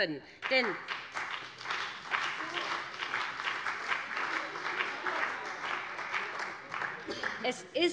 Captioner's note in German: Beifall bei dem BÜNDNIS 90/DIE GRÜNEN und der CDU